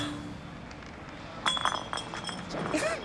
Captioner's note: bottles clinks; chuckles